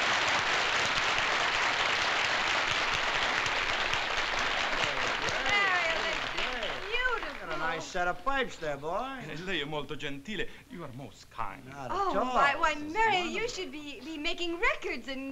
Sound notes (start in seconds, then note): 9.2 speaking italian